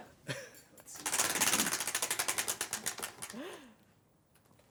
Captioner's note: ratcheting